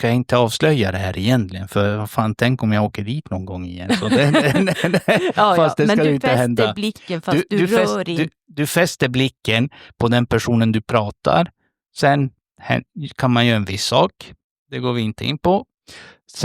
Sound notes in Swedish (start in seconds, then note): 3.8 skratt